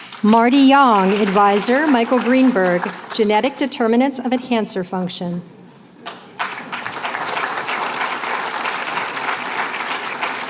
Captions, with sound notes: Marty Yang. Advisor, Michael Greenberg. Genetic determinants of enhancer function. [APPLAUSE]